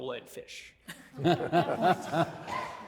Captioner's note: all laughing